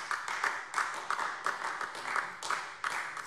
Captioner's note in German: Beifall AfD